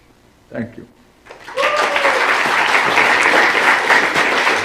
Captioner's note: applause